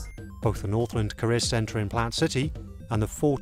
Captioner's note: voiceover